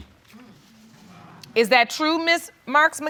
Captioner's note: audience muttering